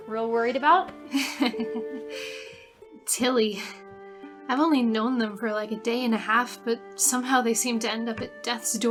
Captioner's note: laughs